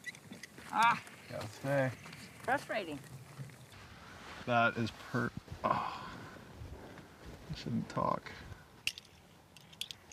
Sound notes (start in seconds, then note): 0.9 woman groans; 5.6 groans